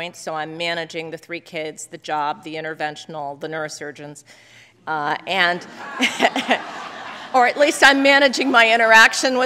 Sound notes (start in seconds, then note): 5.6 laugther